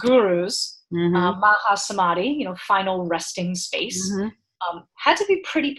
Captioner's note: speaking in foreign language